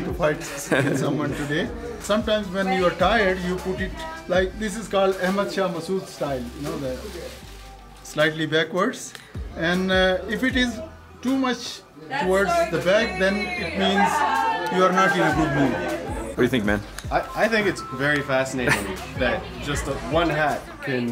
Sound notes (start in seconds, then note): 6.2 foreign language